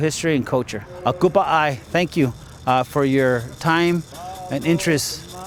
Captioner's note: non-english